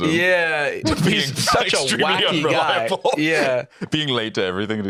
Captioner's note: laughs